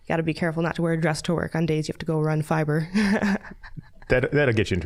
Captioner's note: laughing